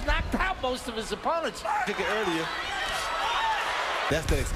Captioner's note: cheers